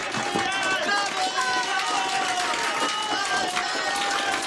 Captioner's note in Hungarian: éljenző kiabálás, tapsvihar